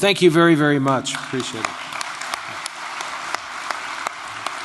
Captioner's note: applause